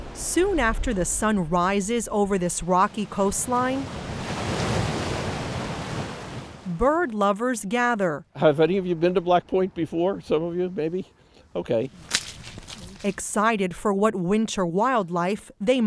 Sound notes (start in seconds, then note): 4.2 tide whooshes